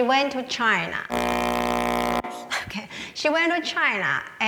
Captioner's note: microphone buzzes